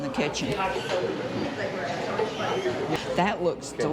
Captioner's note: people chattering